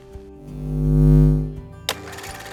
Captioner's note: light hums; camera reel flutters